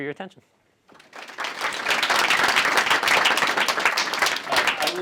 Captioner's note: applause